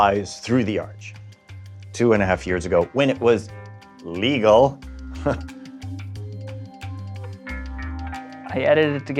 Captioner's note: laughs